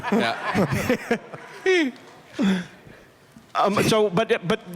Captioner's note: laughter